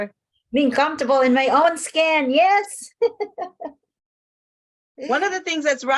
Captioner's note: laughs